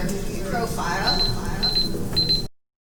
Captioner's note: beeping